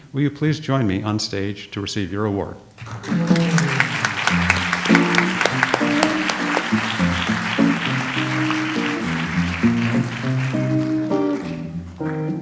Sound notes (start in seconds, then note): 3.2 audience applauds; 4.3 light jazz music